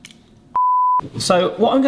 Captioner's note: beep